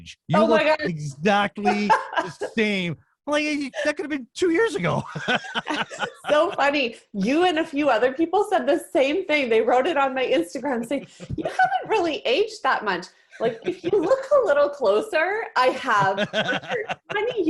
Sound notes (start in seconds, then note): 4.7 both laughing